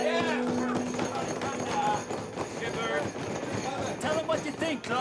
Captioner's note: hands thudding